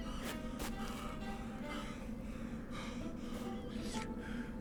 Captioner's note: gasping